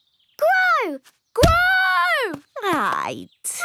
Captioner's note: stomping